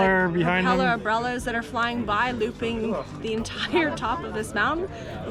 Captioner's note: laughs